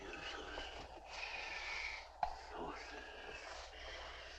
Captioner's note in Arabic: بيت يتمتم بصوت خافت